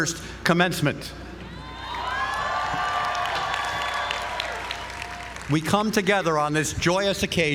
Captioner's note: applause